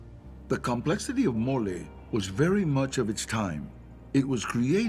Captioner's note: in English